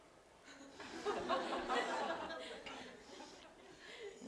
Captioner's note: audience: Laughter